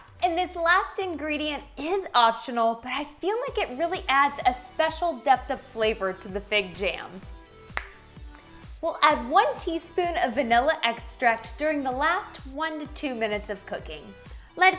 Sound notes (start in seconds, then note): 7.7 finger snapping